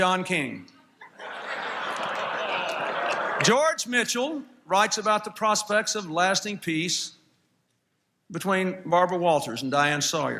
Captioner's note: laughter